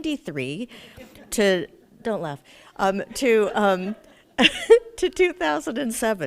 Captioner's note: audience chuckles